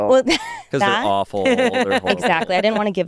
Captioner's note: laughs